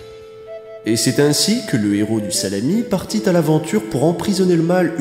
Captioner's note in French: Voix-Off